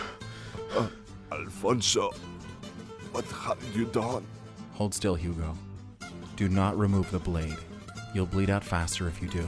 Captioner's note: in pain